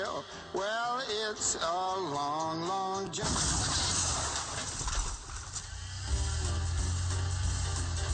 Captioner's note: sound of explosion; jazz music; sound of car motor